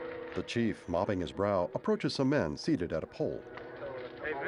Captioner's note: indistinct conversations